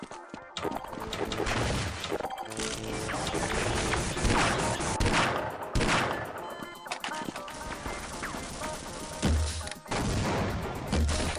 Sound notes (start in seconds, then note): 2.6 gunshots